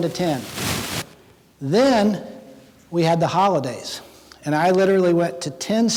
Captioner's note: none